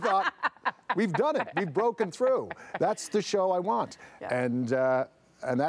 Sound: laughter

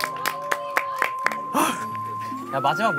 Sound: sighing

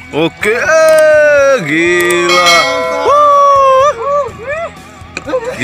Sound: shouting hurray

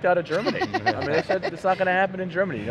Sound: laughing

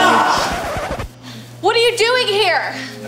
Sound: record scratch

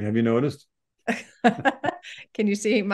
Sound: laughing

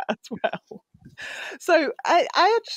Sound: laughs

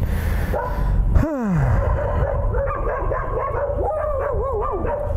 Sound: dogs barking; sighs deeply; barking continues

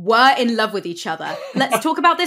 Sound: laughs

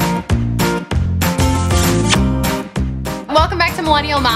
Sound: kiss smack

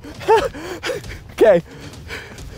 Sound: laughing

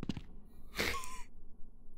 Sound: wheezes

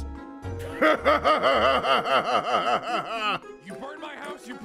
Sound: laughing cutely

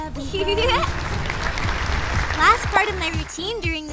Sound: giggling; applause

